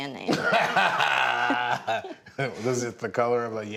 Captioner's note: laughs